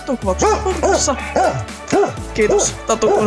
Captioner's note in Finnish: haukkuu tyhjyydelle